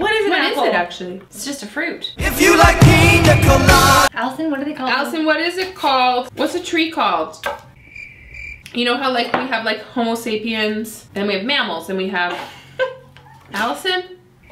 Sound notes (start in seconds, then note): 7.7 crickets chirp